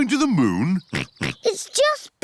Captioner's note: chuckles; oinks